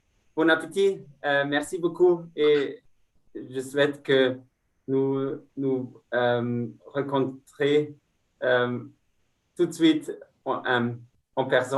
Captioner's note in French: Speaking in French